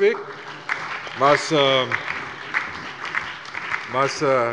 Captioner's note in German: Beifall bei der CDU, dem BÜNDNIS 90/DIE GRÜNEN und der LINKEN